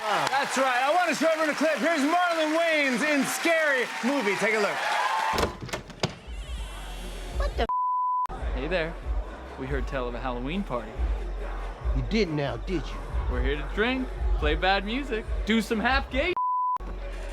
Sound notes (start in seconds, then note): 0.0 cheers and applause; 5.3 door creaking